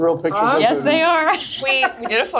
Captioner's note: laughs